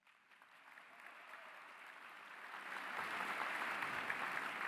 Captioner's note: applause